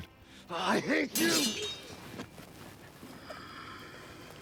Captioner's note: swords clanging